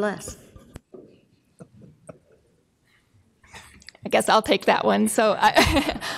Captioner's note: laughs